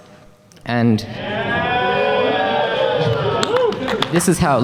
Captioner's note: audience cheers